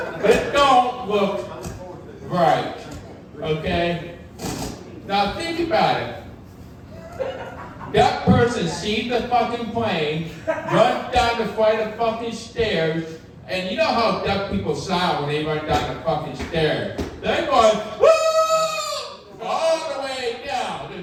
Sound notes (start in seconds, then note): 18.0 screaming; 20.1 audience laughing